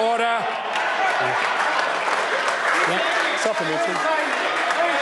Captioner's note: members applaud